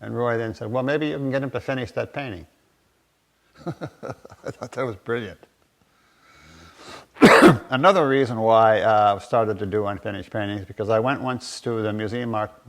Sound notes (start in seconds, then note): 3.5 laughter